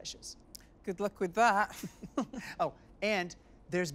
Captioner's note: chuckles